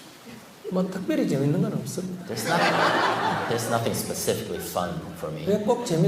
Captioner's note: audience Laughter